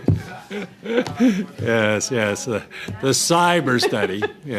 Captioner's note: laughter